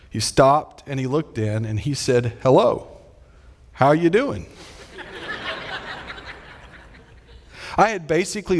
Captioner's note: audience laughing